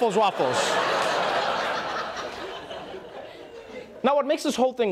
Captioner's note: audience laughing